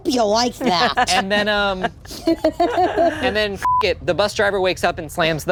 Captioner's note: beep